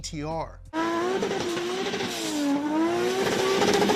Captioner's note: engine whirring